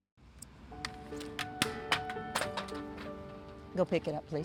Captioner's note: helmet Clatters